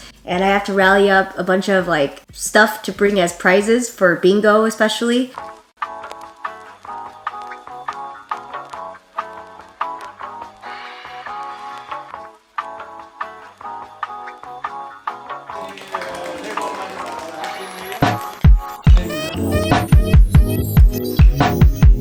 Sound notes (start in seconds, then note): 5.5 gentle music; 15.5 clapping; 18.9 chill music